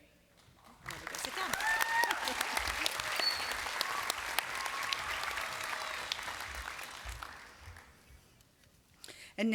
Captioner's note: applause